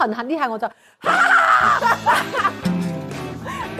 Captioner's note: haha